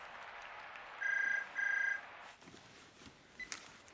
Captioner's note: telepon berdering